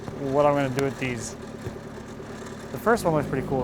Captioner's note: engine roaring